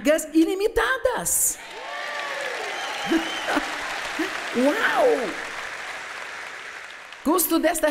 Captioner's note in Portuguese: audiência se alegra